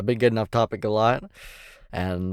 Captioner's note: inhales